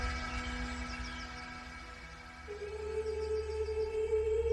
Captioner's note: birds chirping